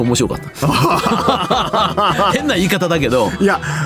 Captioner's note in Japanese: 笑い